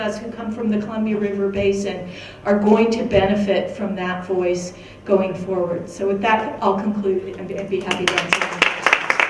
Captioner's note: clapping